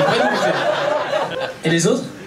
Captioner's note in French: rires public